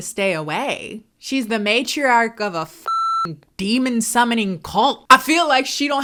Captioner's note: beep